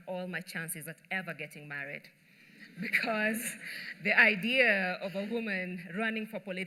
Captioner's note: laughter